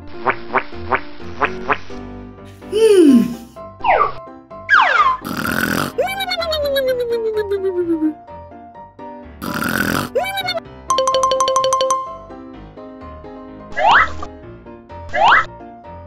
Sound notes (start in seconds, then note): 5.5 loud snoring; 10.0 playful music